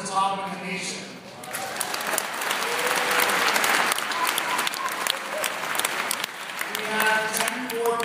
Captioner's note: applause